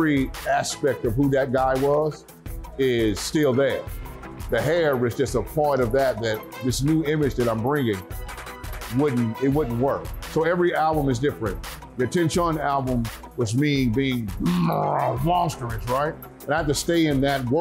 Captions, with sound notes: of who that guy was is still there. The hair was just a part of that that this new image that I'm bringing wouldn't-- it wouldn't work. So every album is different. The "AttenCHUN!" album was me being-- [roaring] Monstrous, right? And I have to stay in that world